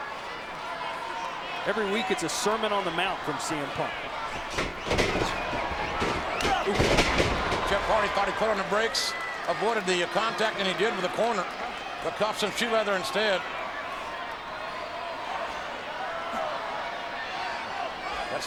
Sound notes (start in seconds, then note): 7.1 bodies thud; 14.7 audience chattering